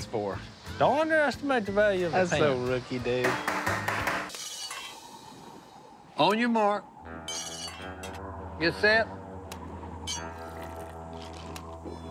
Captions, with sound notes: - Don't underestimate the value of a pan. - That's so rookie, dude. - [bangs on grill] On your mark. - [scrapes utensils] - Get set. [slurps and gulps]